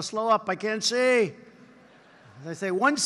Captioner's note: laughter